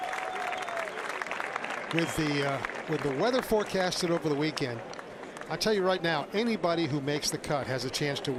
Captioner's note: applause